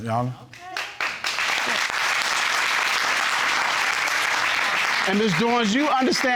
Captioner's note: audience clapping